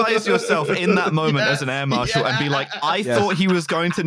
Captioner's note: laughing